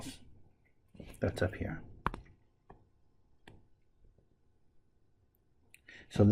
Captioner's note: tapping Sounds